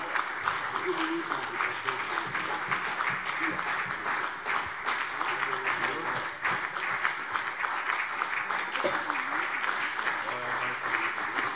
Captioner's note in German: Beifall CDU und BÜNDNIS 90/DIE GRÜNEN